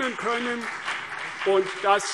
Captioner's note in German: Beifall CDU und BÜNDNIS 90/DIE GRÜNEN